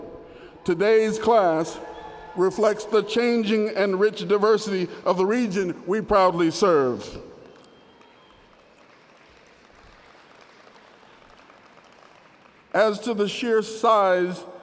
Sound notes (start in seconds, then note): 0.6 cheering; 9.5 applause